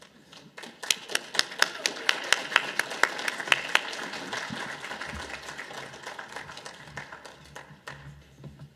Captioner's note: audience applause